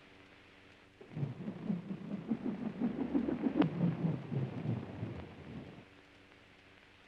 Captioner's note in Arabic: الطائرة تئن بهدوء